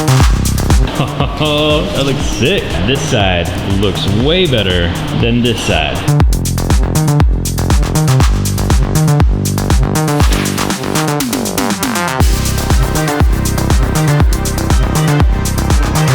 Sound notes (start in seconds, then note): 0.8 laughing; 6.0 electronic dance music